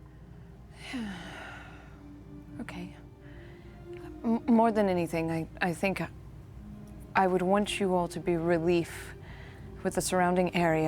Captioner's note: sighs